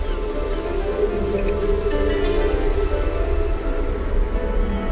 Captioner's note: gentle mystical music; water whooshing